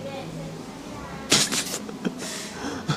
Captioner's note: puffs; nervous Laugh